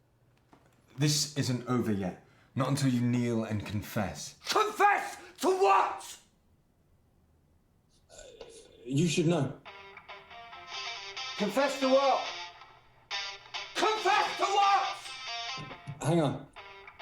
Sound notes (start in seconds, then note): 9.1 phone continues ringing; 13.2 phone ringing